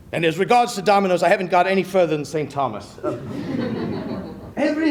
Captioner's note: laughter